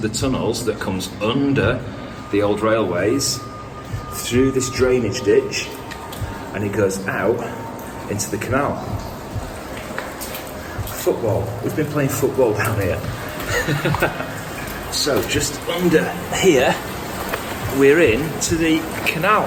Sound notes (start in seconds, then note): 13.2 laughs